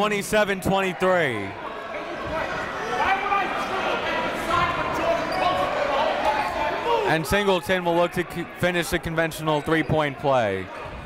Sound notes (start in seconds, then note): 2.2 coaches yelling; 3.1 crowd talking